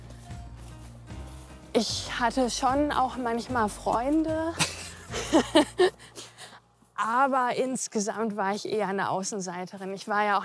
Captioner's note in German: beide lachen